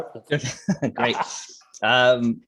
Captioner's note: laughs